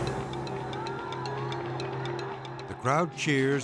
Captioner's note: crowd cheering